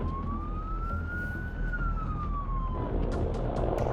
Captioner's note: sirens wailing